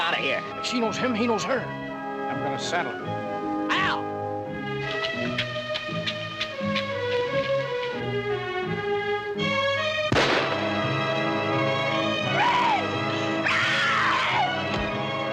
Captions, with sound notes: She knows him, he knows her. I'm gonna settle 'im. Al! [gunshot bangs] Red! Red!